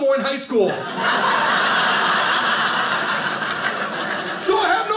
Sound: audience laughing

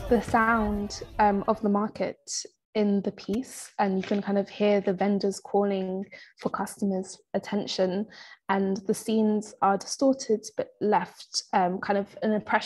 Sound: people talking

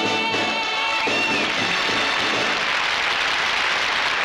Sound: applause

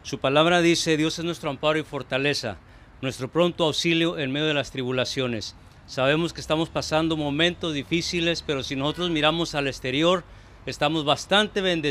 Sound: prayers in spanish

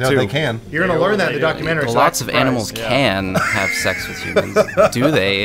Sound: wheeze laughs

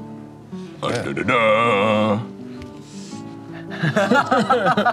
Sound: grunting; laughter

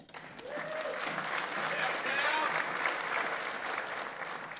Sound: audience applauds

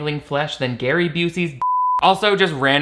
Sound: beep

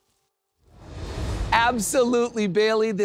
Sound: graphics whoosh

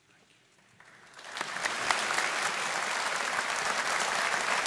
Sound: audience applauding

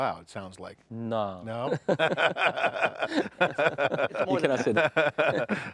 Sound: chuckles

